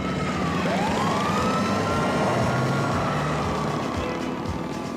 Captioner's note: sirens; tires squealing